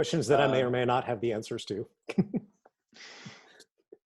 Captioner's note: chuckling